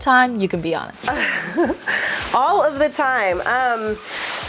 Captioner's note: laughs